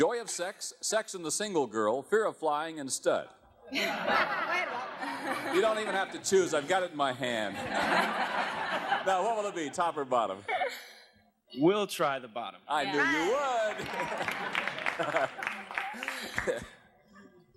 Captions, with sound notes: "Joy of Sex," "Sex and the Single Girl," "Fear of Flying," and "Stud." (laughter) You don't even have to choose I've got it in my hand. Now, what will it be? Top or bottom? -We'll try the bottom. -I knew you would! (laughs)